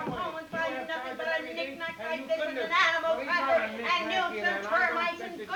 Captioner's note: Ollie and Mrs. Hardy chattering